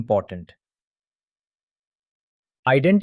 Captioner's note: pause